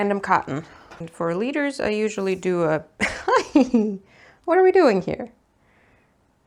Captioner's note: giggles